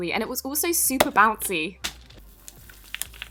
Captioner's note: ball boucnes again; satisfying squishes